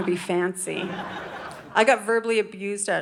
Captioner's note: audience laughing